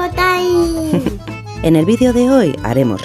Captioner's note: laugh